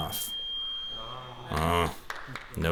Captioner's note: beep